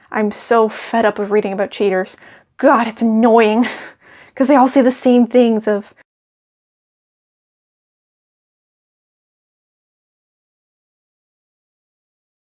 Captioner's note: silence